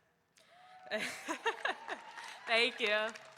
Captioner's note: audience cheering; laughing